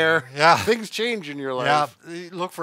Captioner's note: laughing